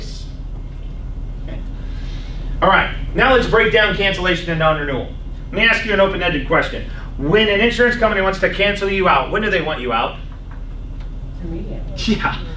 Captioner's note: laughs